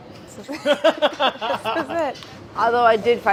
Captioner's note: laughter